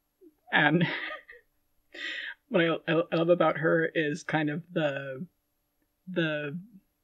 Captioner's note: laughing